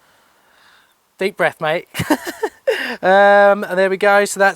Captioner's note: laughs